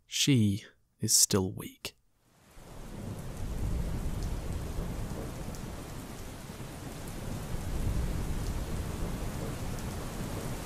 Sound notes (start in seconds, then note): 3.1 gentle rainfall